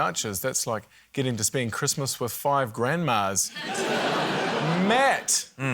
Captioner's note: laughter